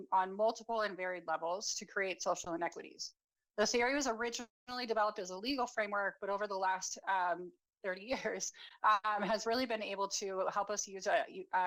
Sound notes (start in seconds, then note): 9.2 chuckles